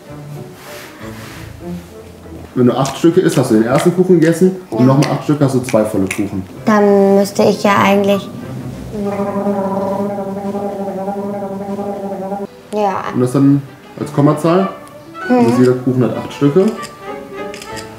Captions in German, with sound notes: (Freche Musik) Acht Stücke sind ein Kuchen, mit noch mal acht zwei. (Lautes Schmatzen) Dann müsste ich ja eigentlich ... (Gurgelgeräusch) Ja. - Und das dann als Kommazahl? Jeder Kuchen hat acht Stücke. - Mhm.